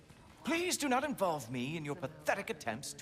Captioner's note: none